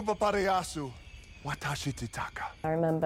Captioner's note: Frank speaking Puka Michuna